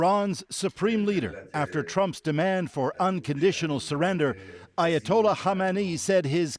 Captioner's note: speaking alternate language